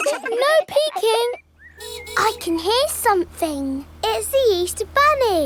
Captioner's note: giggling; car horn honking